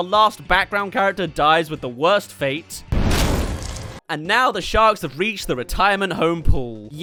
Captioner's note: splat